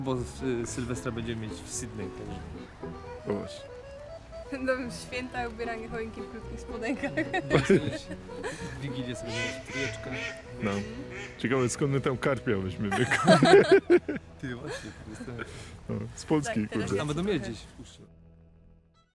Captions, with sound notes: It'll be fun, because we will have New Year's Eve in Sydney! And dressing the Christmas tree and Christmas in shorts ... Christmas Eve we will eat together... I wonder where will we find carp fish? (laugh) Good question! From Poland? Maybe they will have some ... somewhere in the wilderness?